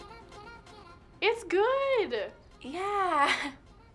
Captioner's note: giggles